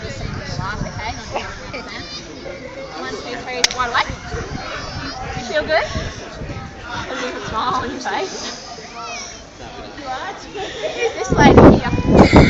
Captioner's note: laughs